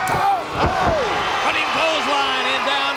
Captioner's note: audience cheers